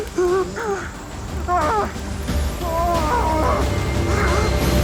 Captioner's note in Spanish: Gritos